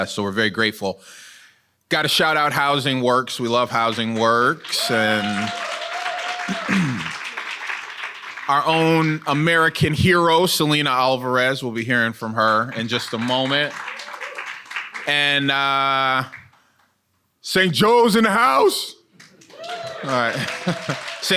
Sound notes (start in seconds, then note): 5.7 audience cheering and applauding; 12.4 audience applauding; 19.2 audience cheering and applauding; 20.3 chuckles